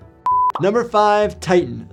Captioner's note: calm music; beep